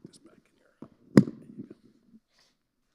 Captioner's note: mic clicking